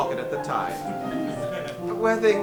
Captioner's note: audience laughs